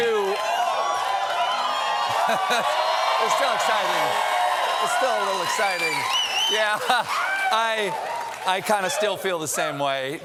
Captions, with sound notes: TO... ( CHEERS AND APPLAUSE ) IT'S STILL EXCITING. IT'S STILL A LITTLE EXCITING. YEAH. I-- I KIND OF STILL FEEL THE SAME WAY.